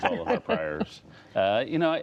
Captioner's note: laughter